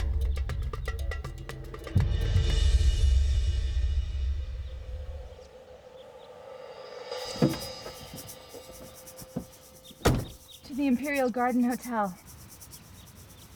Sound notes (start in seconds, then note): 4.4 dramatic Music; 7.5 door Opens